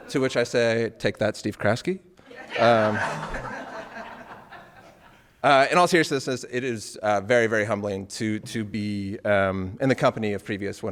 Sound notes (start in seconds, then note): 2.3 audience laughing